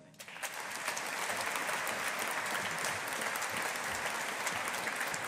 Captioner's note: audience applauding